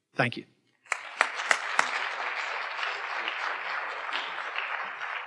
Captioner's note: audience applauding